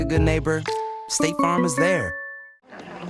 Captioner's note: laughter